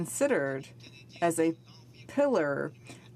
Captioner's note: speaking in french